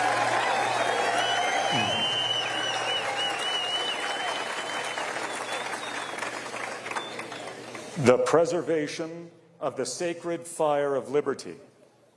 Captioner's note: cheers and applause